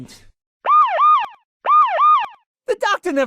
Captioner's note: police sirens